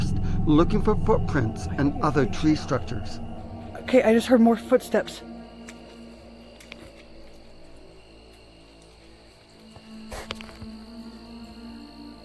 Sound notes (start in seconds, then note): 5.2 crickets chirping; 5.2 eerie music